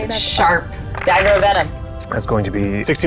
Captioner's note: dice rattling